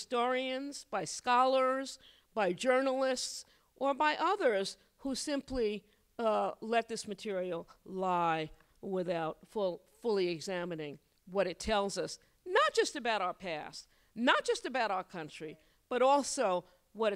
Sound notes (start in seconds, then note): none